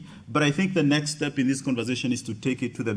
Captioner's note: none